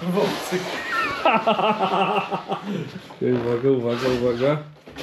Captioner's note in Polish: śmiech